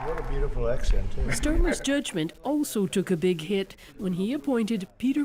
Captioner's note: applause